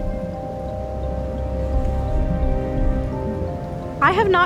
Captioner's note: deep rumbling echos